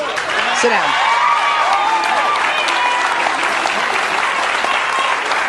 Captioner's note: audience applauding